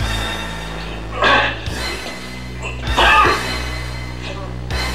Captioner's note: choking